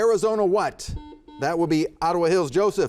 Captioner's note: buzzer buzzes